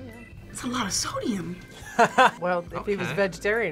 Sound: laughs

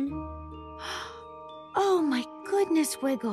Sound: gasp

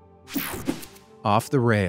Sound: image whooshing

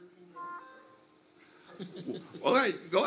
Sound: tone dings; laughs

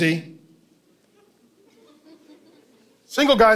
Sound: congregation laughing

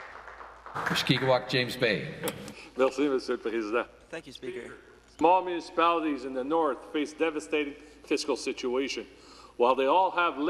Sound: applause

